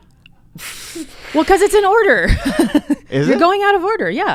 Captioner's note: laughs